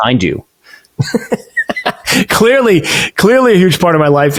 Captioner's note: laughs